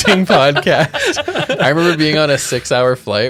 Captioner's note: all laughs